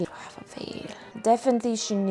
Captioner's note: whispers